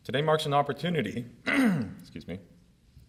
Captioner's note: clears throat; clears throat again